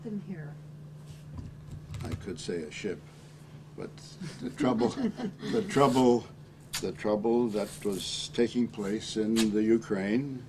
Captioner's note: laughing